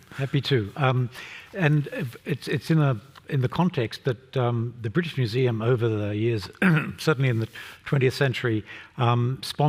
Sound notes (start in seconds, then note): 6.6 cough